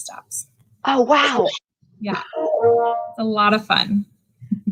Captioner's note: laughs